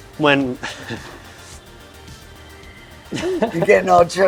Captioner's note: chuckles